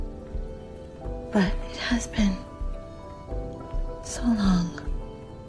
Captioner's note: voiceover